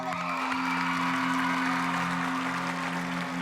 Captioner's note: applause